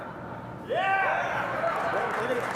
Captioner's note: cheering